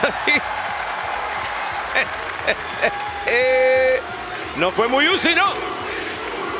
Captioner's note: applause; laugh